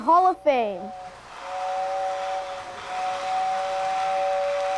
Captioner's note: train whistling